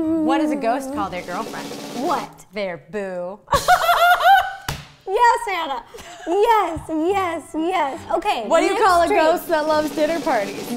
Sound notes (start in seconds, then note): 3.5 laughs